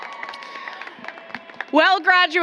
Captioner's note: applause